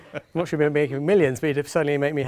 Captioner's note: laughing